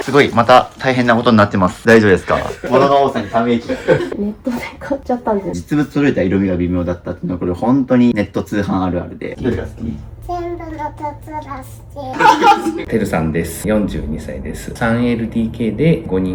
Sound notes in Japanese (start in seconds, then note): 5.5 笑い